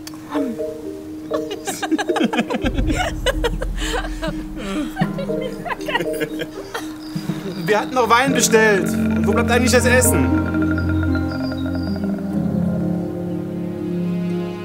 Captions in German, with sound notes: Mann! (lacht:) Werd ich nicht vergessen. Wir hatten noch Wein bestellt. Und wo bleibt eigentlich das Essen? (Angespannte Musik)